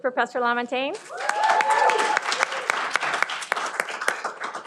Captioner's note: cheering